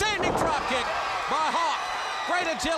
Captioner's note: crowd cheering